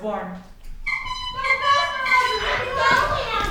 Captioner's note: horn tooting